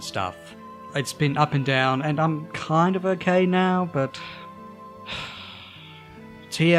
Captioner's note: sigh